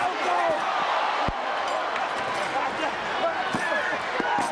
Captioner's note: audience cheers